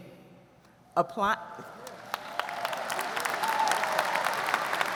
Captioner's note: audience applauds